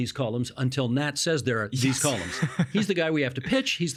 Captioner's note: laughing